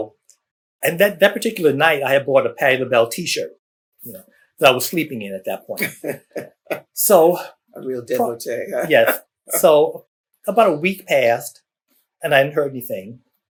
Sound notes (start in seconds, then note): 5.8 laughter